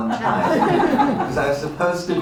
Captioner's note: laughter